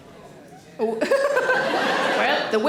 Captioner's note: Sarah laughs